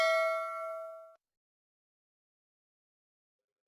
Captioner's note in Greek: καμπανάκι